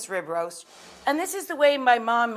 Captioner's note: air whooshing